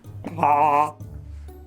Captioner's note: Muppet voice/impersonation